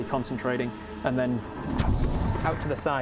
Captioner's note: pwoof